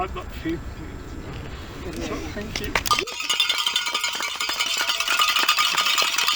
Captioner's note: crowd cheering with bells